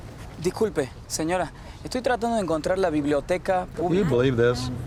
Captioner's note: man speaking Spanish